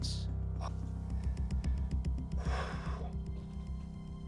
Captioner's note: sighs